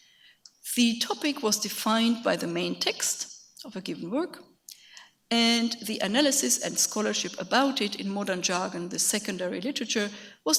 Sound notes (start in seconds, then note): none